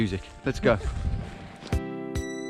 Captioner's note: laughing